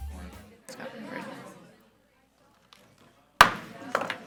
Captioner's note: audience chattering; gavel bangs